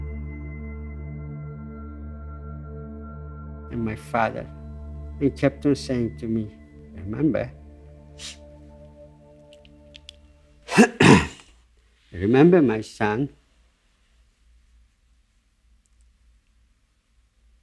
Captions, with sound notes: - And my father, he kept on saying to me, "Remember, (inhales) (clears throat) remember, my son,